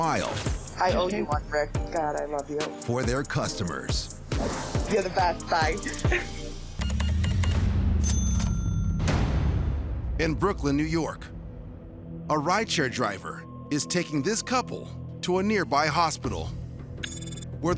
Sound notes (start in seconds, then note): 6.8 beeping; 7.9 cash register dings